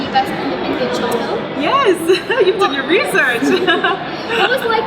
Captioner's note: laughs